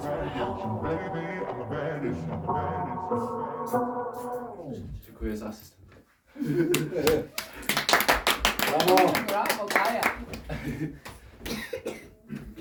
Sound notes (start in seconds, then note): 6.7 audience claps